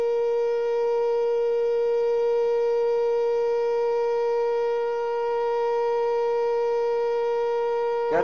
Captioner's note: tone continues, getting slightly louder